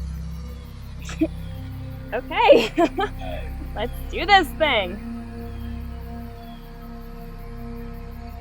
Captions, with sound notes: Okay. (laughs) Let's do this thing.